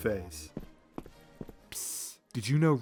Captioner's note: footsteps